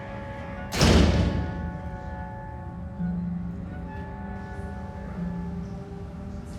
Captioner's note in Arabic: رنين الجرس